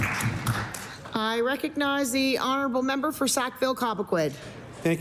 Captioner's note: applause